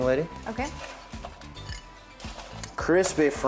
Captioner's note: plates clanking